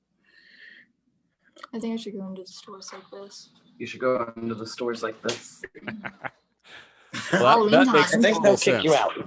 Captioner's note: laughs